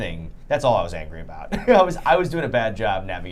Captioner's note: laughs